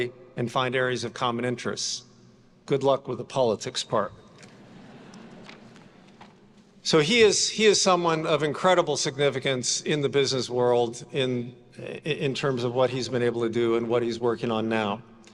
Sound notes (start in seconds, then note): 4.5 attendees laughing